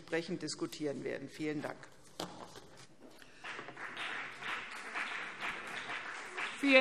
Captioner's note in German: Beifall CDU und BÜNDNIS 90/DIE GRÜNEN